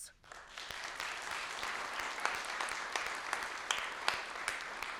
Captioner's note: people clapping